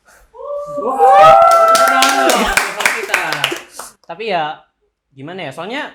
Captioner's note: claps